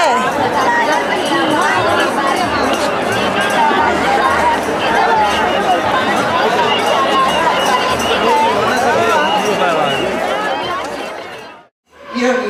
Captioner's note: Sounds of Kumbh Melah